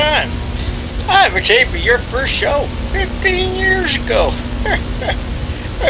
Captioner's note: chuckles